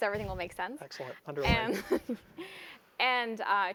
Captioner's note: laugh